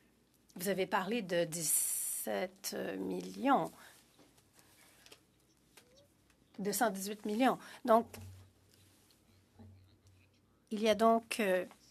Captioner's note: speaking French